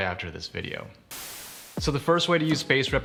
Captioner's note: electronic whoosh